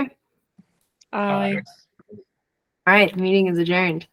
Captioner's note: multiple ayes